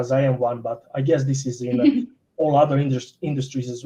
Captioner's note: chuckles